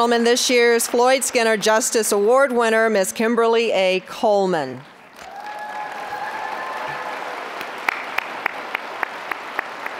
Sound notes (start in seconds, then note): 5.1 applause, cheering; 9.3 applause